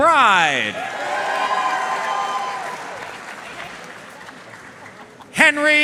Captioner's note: audience cheering and applauding